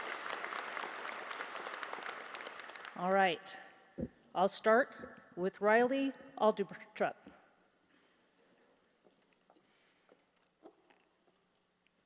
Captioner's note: applause